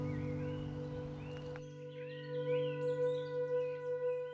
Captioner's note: birds chirping